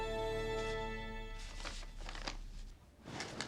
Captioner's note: paper rustling